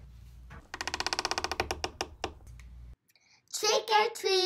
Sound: door creaks

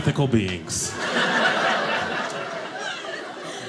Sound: audience laughing

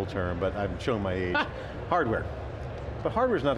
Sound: laughs

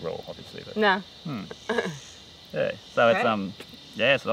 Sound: laughs

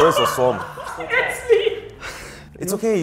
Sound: laughs

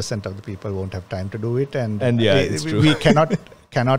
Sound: laughs

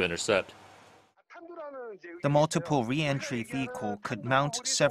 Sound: Korean

